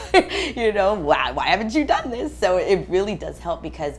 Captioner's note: laugh